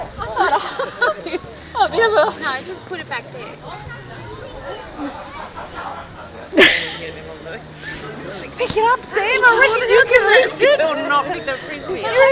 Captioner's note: laughter